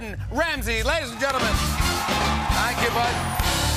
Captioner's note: cheers and applause